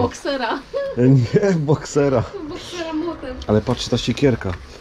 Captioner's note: laughs